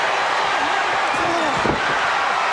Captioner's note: audience cheering